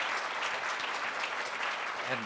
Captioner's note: applause